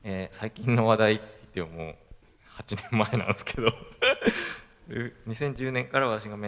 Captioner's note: laugh